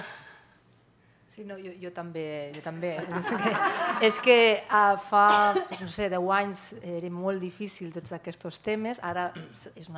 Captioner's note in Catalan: riures